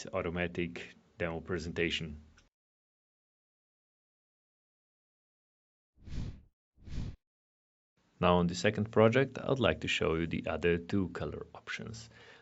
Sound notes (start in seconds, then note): 4.3 air whooshing